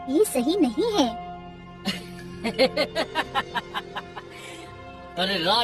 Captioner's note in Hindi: हंसी